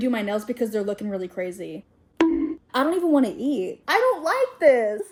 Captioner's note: bonk sound effect